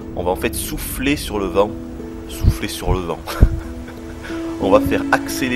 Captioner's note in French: rires